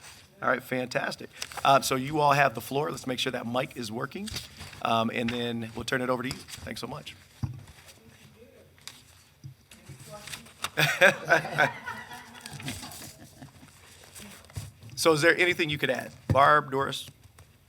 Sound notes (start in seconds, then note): 10.7 people laughing